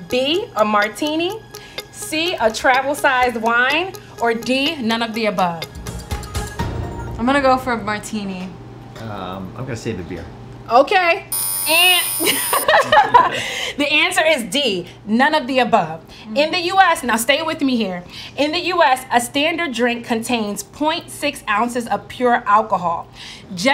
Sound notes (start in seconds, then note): 11.3 buzzer sounds; 12.8 all laugh